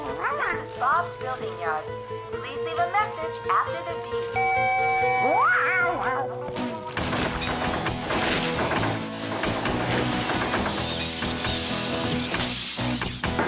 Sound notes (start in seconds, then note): 4.3 beep!